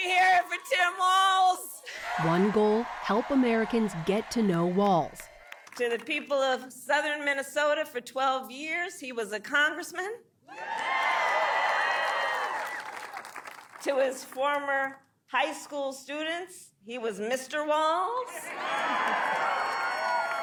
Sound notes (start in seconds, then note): 13.6 applause; 13.6 cheering